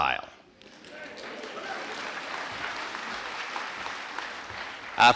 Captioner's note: audience applauding